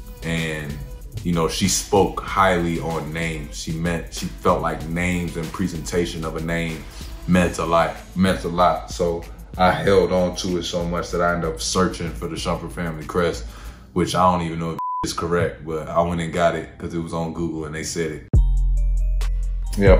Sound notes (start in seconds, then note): 14.8 beeping; 18.3 upbeat music